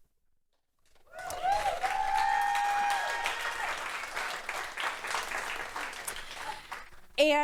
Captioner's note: applause